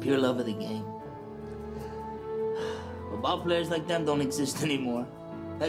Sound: sighs

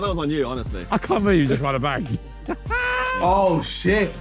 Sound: laughing

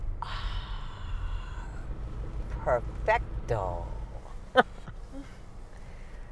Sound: chuckles

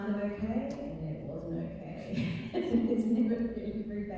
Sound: laughing

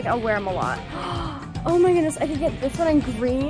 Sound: gasp

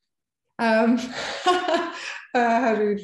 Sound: laughing

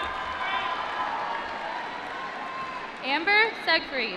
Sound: applause

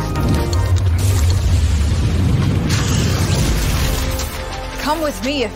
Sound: upbeat music; thunder rumbling

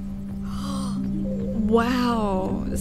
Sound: gasp

